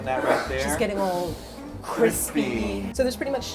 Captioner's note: inhales